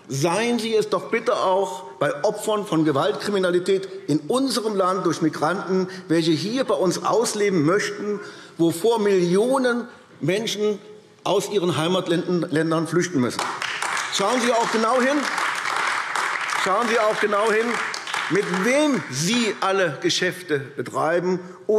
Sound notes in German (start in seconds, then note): 13.3 Beifall AfD